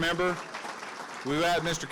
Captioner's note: audiences clapping